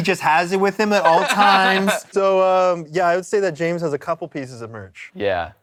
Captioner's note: laughter